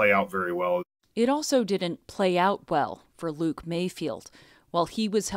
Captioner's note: voice-over